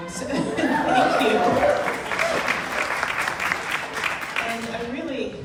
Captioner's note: laughs; crowd clapping